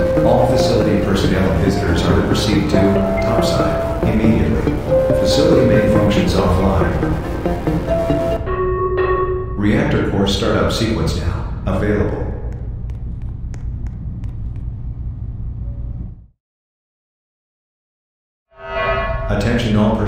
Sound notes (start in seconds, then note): 8.4 announcement Chime; 18.6 announcement Chime